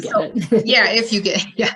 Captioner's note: laughs